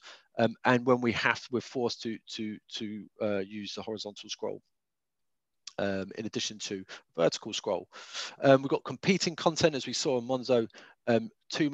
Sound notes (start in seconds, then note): none